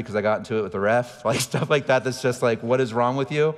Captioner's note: laughing